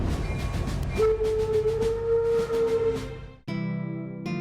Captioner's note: steam whistle